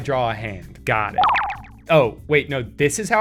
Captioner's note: chiming sound